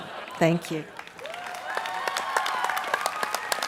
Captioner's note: cheers and applause